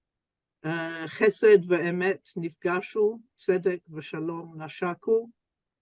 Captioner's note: speaks Hebrew